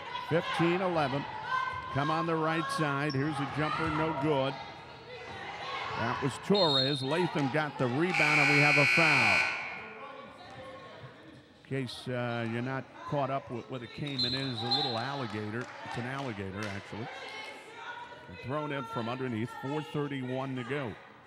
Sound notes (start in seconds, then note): 8.1 buzzer dings